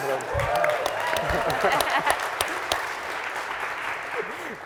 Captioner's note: audience applauding